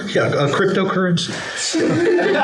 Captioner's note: laughter